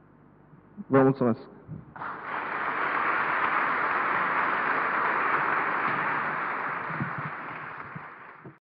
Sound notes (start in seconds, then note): 1.9 applause